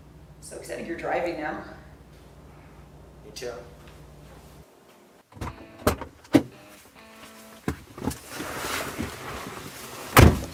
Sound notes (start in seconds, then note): 5.3 car doors opening